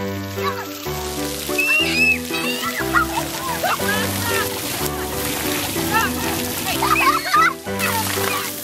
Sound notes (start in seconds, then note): 1.4 kids yelling, playing; 5.0 upbeat piano music